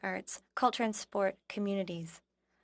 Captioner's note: speaking French